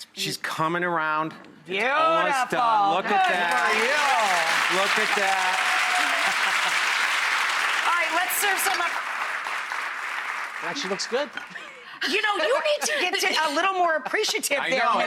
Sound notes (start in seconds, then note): 4.4 audience cheering